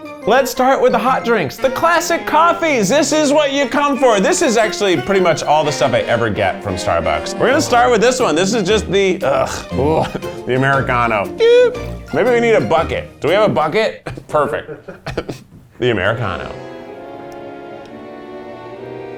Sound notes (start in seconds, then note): 14.0 laughing; 16.0 soft music